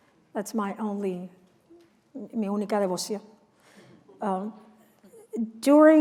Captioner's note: non-english speech